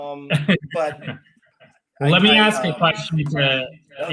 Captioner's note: laughs